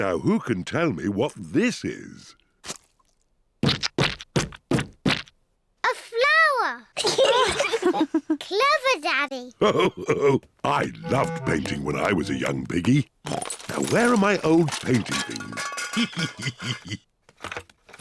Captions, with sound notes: Now, who can tell me what this is? -A flower. -(GIGGLES) -(ALL LAUGH) -Clever Daddy. Ho-ho. I loved painting when I was a young piggy. Oink. Now, where are my old painting things? Hee-hee-hee.